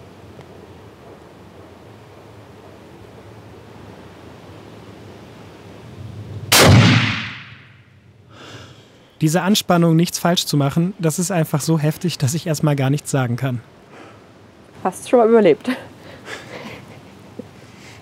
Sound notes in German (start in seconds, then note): 16.1 Leises Lachen